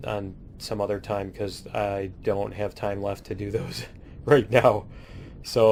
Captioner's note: laughs